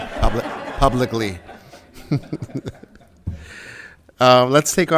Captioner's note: audience laughing